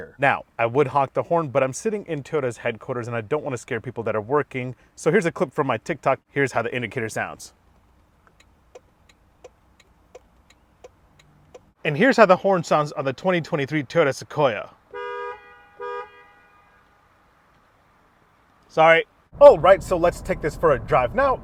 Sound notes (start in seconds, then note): 8.2 turn signal clicking; 14.8 horn honking